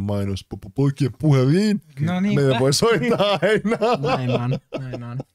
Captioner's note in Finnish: Nauraa